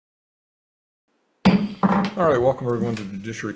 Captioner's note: gavel clattering